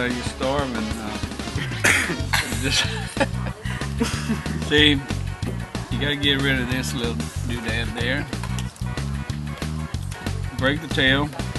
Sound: laughs

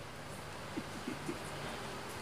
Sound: laughs

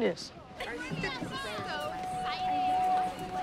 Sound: kids chattering; soft dramatic music

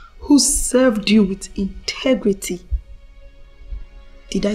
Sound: none

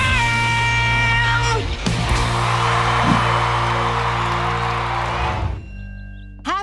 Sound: cheering

